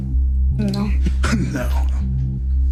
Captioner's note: scoffs